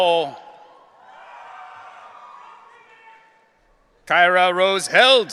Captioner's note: audience cheering